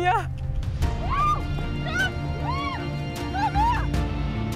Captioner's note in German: schreien